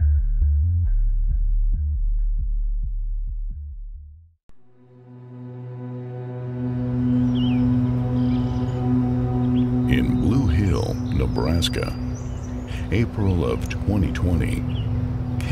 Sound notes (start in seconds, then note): 6.0 brooding music; 7.9 birds chirping